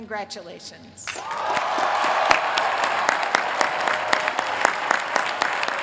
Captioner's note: applause